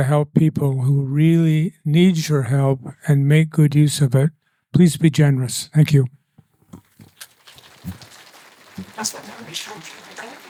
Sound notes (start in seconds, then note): 7.0 applause